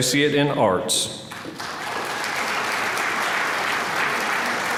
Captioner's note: applause